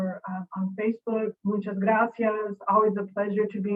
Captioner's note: speaking in foreign language